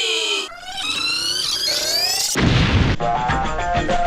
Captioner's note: squeaky monophonic noise, explosion; funk music